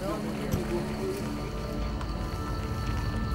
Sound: cicadas chirping; tense music

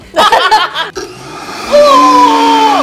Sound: both laughing; blender whirring

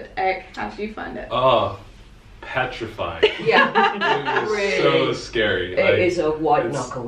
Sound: laughter

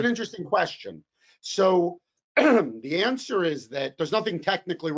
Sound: coughs

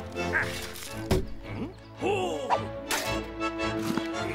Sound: thudding

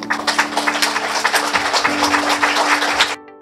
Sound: audience applauding

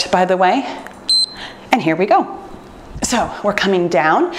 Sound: timer beeps

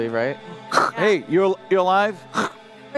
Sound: radio

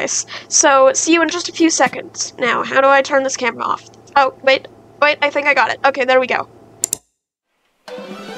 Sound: click

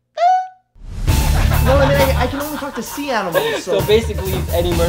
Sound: laughter

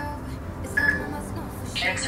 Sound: peep

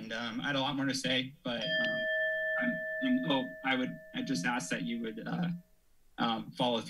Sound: alarm sound

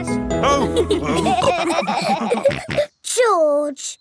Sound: all laughing

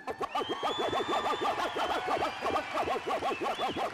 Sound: cheers

